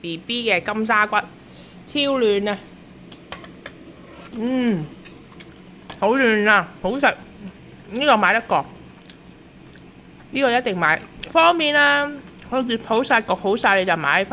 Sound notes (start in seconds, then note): 4.2 sound: Mmm